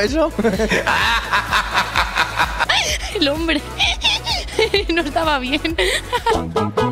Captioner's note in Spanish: Risas